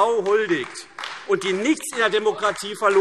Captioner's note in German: Beifall AfD